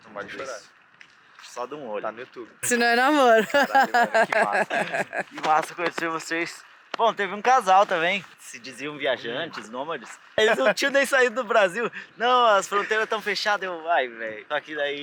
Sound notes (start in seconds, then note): 2.6 laughs